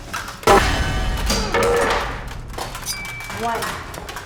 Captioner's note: cutting board thuds